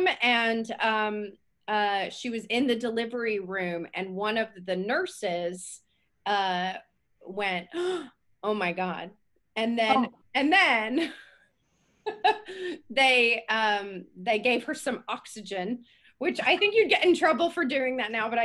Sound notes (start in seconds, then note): 11.3 laughs